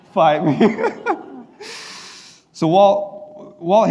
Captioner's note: laughing